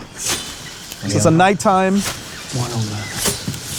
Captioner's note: leaves rustling; blade swishes; blade swishing; insects chittering